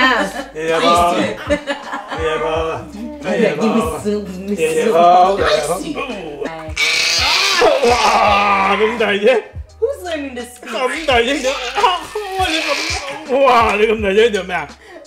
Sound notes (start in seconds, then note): 6.7 baby screams